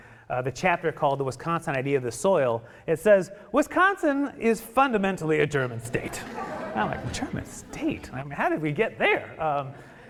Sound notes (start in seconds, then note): 5.5 audience laughing